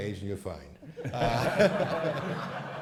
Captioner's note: laughter